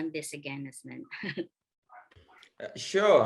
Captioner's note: laughs